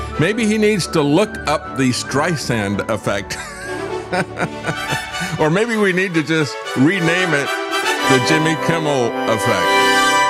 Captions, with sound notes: Maybe he needs to look up the Streisand effect. (Laugh) Or maybe we need to just rename it the Jimmy Kimmel effect.